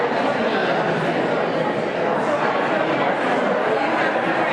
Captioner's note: audience conversing